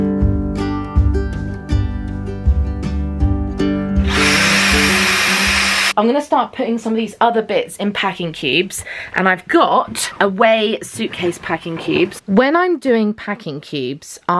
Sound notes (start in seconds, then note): 4.0 vacuum whirring